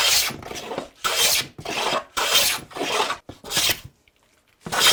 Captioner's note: wood scraping